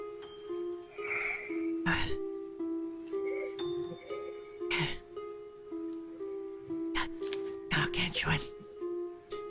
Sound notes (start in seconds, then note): 0.9 breathless; 4.4 breath; 7.6 whispered